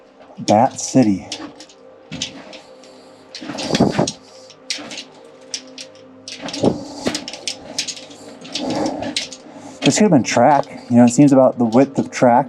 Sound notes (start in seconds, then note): 2.5 heavy breathing and footsteps